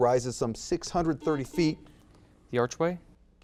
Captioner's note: buzzer beeps